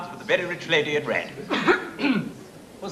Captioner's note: clears throat twice